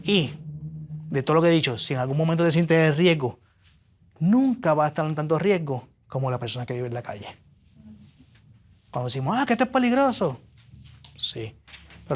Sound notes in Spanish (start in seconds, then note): none